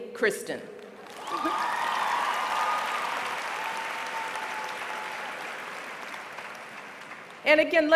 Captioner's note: applause